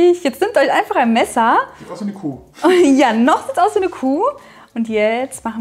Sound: laughing

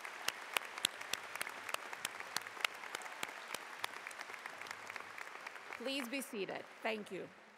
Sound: applause

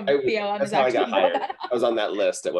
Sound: laughs

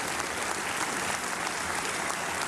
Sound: applause

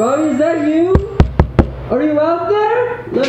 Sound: intern knocks

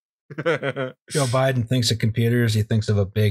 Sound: laughter

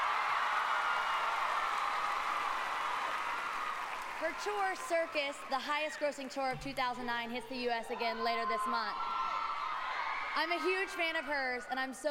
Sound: cheers and applause

